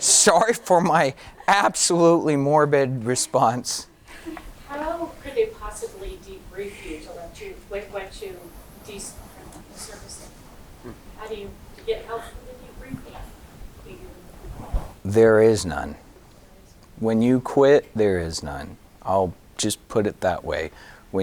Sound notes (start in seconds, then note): 9.0 speaking off mic